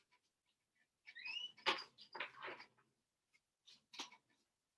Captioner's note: object creaks